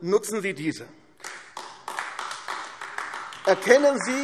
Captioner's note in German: Beifall AfD